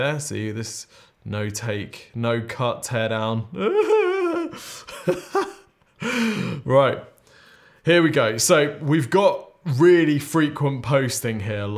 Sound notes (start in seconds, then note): 3.6 nervously laughing